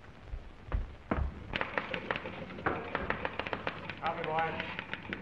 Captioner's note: typewriters clacking